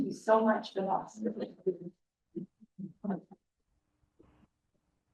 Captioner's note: static drowns